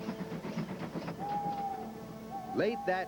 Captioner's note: owl hooting